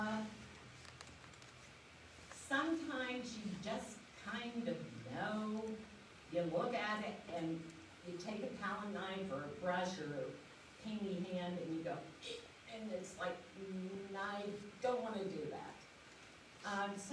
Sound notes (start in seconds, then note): none